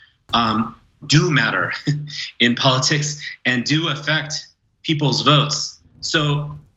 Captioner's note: laugh